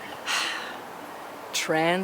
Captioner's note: birds chirping; wind whooshing; sighs